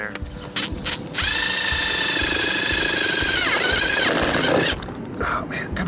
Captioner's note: screwdriver whirring